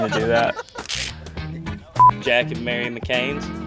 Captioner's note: laughter